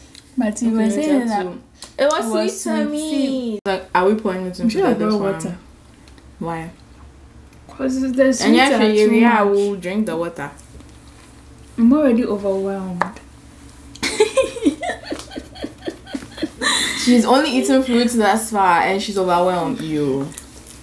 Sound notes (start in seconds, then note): 14.0 laughs